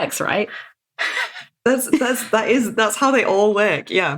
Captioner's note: laughs